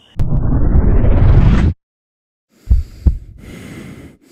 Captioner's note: time-lapse sound effect; sound of heavy breathing; heart-beat echoing